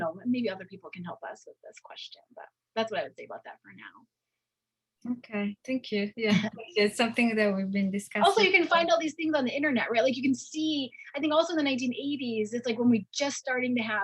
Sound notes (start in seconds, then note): 6.4 chuckles